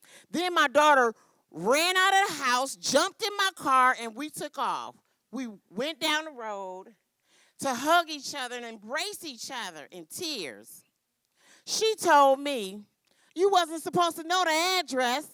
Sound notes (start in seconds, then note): none